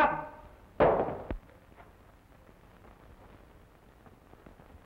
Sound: guns clatter

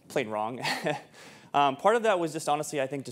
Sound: chuckles

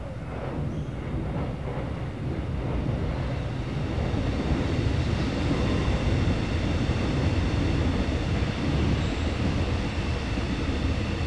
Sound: x’trapolis train going past

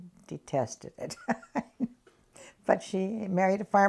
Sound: laughs

